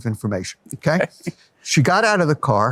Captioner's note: laughs